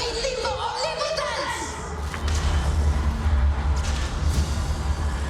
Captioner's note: shouting in foreign language; electricity crackles